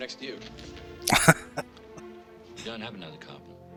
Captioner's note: laughing